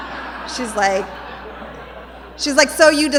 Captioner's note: laughter